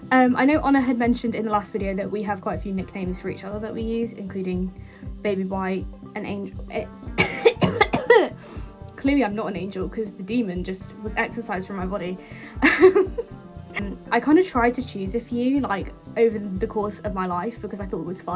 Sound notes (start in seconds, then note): 7.1 coughing fit; 12.6 laughing